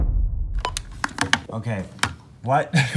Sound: phone receiver clatters; dial beeps; chuckles

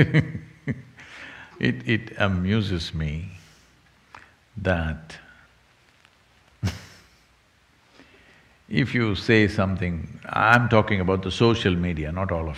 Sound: laughs; laughs

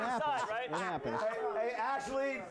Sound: laughter

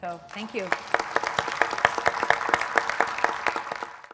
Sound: applause

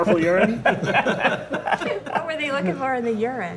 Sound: laughing

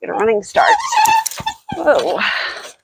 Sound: squeaking

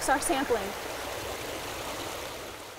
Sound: water Running

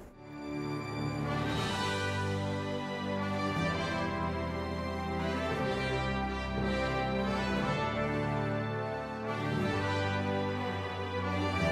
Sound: battle sounds

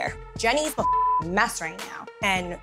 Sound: beep

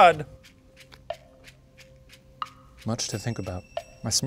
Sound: timer ticking

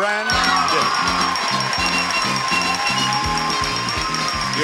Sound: bell chiming

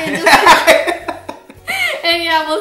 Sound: laughter

